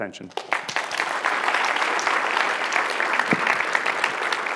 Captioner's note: applause